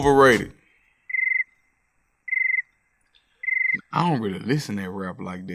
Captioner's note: cricket chirps